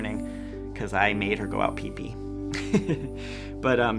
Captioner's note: laughs